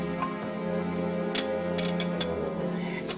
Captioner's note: chair creaking